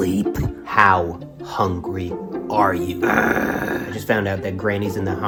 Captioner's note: growls